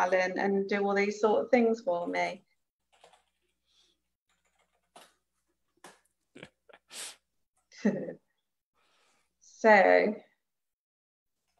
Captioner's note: chuckles